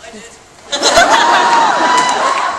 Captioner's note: audience cheers